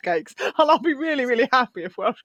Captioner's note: laughs